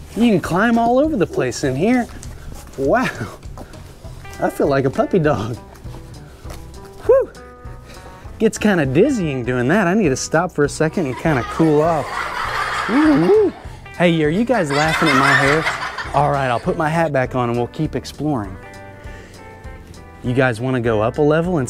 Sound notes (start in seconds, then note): 11.0 kids laughing